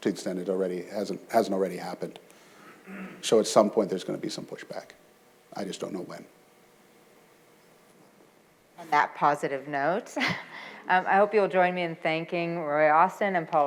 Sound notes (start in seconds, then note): 10.1 chuckles